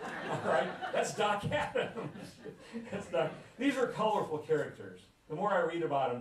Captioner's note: laughter; laughs